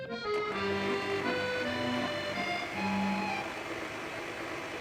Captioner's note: blender rumbles